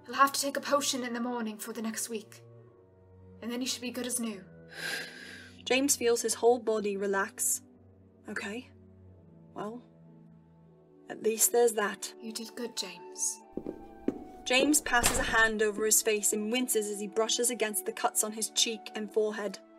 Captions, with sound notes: He’ll have to take a potion in the morning for the next week and then he should be good as new.” [Exhales] James feels his whole body relax. Okay. Well. At least there’s that. “You did good James,” [Footsteps and door closing] James passes a hand over his face and winces as he brushes against the cuts on his cheek and forehead.